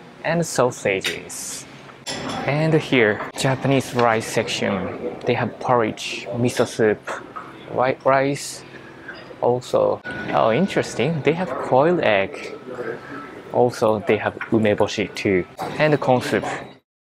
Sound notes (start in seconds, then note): none